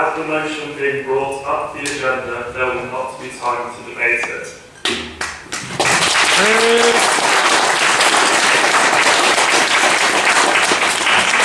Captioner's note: applause